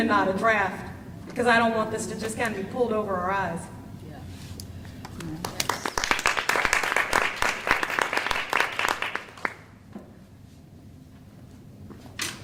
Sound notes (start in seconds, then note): 5.0 applause